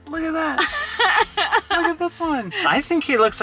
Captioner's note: laughing